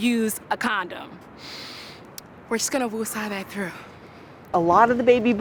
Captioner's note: inhales loudly